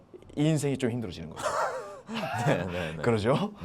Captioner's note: laughing out loud